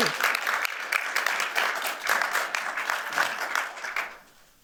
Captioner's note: applause